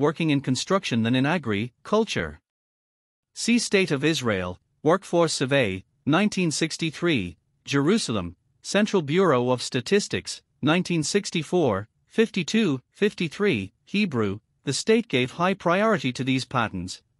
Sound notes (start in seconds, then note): 12.7 Hebrew